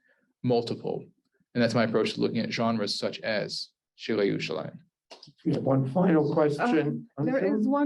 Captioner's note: Hebrew